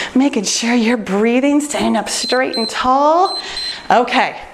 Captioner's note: timer beeps